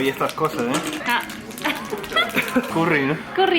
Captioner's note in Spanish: se ríe